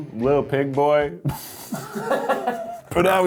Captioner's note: laughing